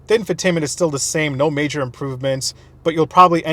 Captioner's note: none